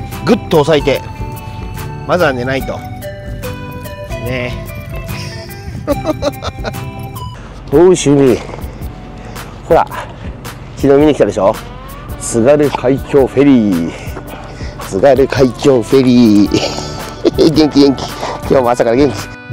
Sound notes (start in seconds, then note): 5.1 laughs